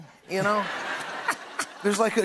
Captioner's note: laughter